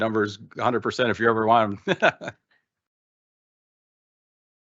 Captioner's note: laughs